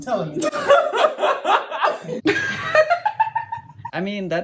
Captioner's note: laughs